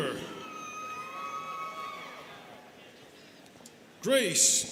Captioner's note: students cheering